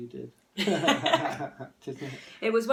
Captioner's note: joint laughing